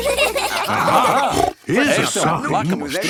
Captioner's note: children giggling; snorts